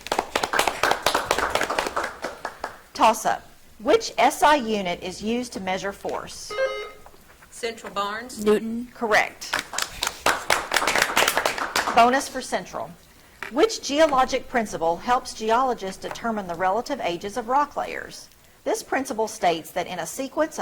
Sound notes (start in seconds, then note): 0.0 audience clapping; 6.4 buzzer trills; 9.4 audience clapping